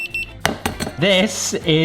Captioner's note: thermometer beeping